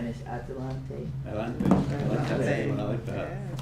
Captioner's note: spanish; speaking spanish